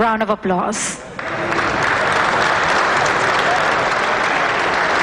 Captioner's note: applause